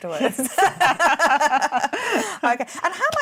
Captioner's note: laughing